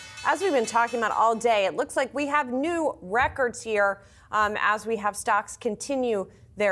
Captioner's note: bell